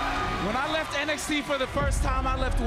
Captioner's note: crowd chants "welcome back"